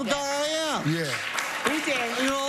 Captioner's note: clapping